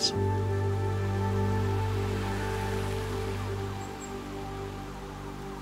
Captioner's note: siren wailing in distance